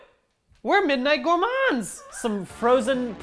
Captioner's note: laughs